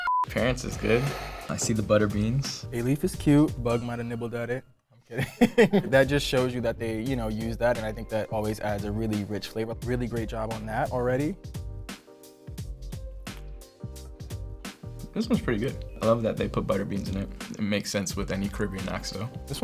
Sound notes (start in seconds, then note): 0.0 crew laughs; 5.1 chuckles; 11.9 bright music